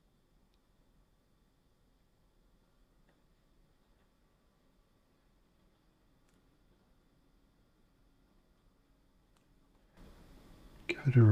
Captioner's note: silence